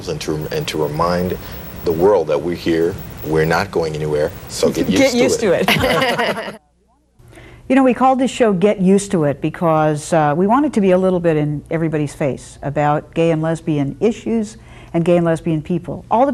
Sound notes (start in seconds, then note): 5.6 all laugh